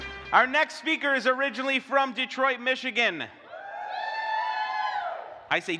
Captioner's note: audience applause